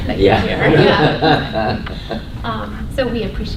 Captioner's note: laughter